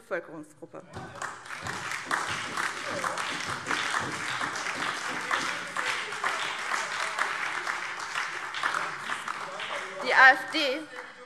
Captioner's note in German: Beifall SPD, vereinzelt CDU, BÜNDNIS 90/DIE GRÜNEN und DIE LINKE - Zurufe AfD